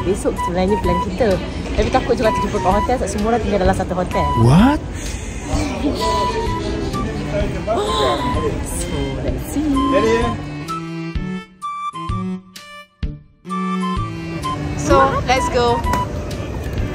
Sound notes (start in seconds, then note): 4.3 laugh; 11.1 background music